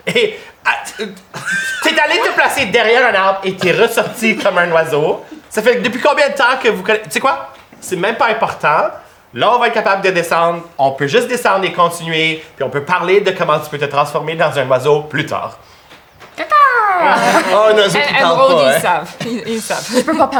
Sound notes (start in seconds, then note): 16.4 weak bird call